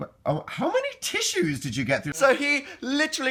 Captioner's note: stuttering in amazement